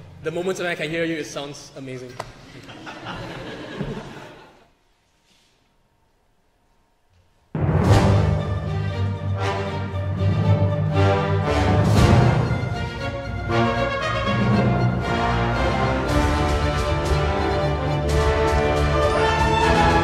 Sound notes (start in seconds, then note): 2.5 choir laughs; 7.3 orchestral music plays